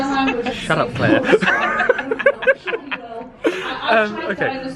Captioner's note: both laughing